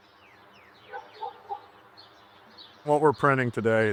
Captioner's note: birds chirping